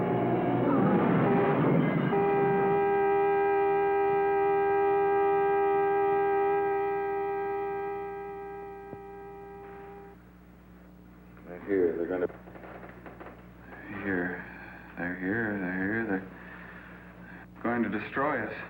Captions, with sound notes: (horn honking) - They're here, they're going to, here, they're here. They're here, they're going to destroy us.